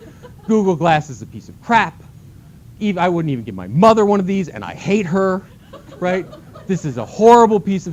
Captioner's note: laughter